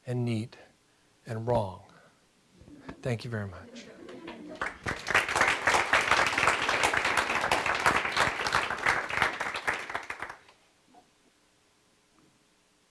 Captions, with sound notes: and neat, and wrong. Thank you, very much. (audience applause)